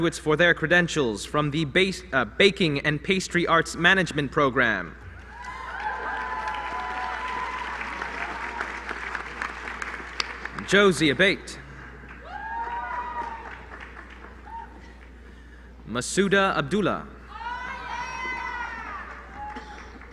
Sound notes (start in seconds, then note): 5.4 applause